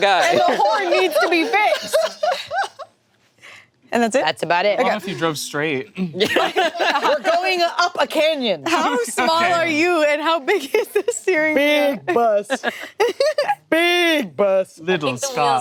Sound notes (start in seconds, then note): 2.0 laughing; 6.0 group laughing